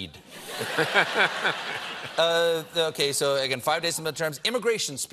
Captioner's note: laughter